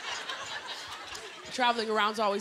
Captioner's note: laughter